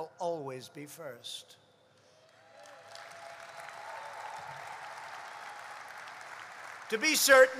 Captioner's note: applause